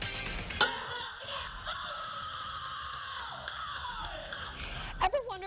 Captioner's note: family dancing & screaming